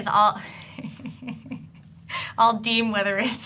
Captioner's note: laughing